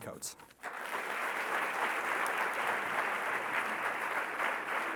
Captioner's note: audience clapping